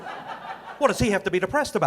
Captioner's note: audience laughing